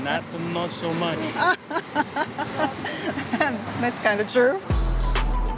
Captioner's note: laughs